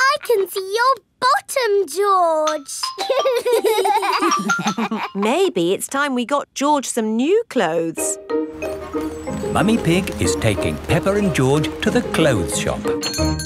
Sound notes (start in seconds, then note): 3.0 giggling